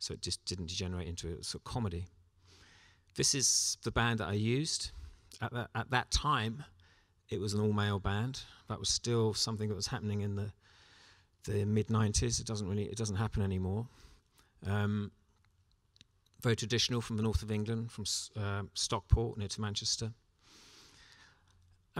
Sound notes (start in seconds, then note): none